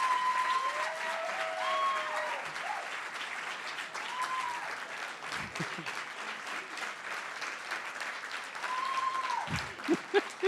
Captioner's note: cheering & Applause